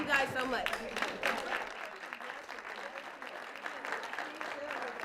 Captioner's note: applause